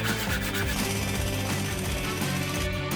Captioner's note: drill buzzing; saw whirring